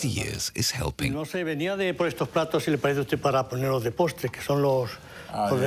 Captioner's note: speaking foreign language